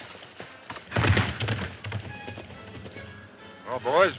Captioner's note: horse galloping